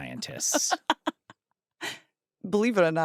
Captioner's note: laughs